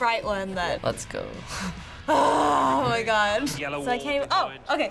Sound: groaning

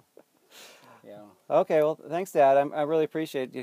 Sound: laughs

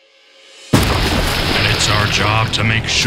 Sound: water splashes

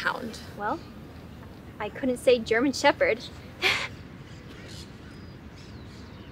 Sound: chuckles

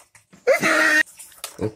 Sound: funny Laugh

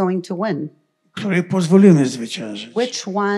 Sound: foreign language

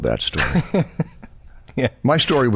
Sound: chuckles

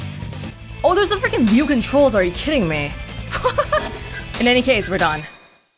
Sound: laughs

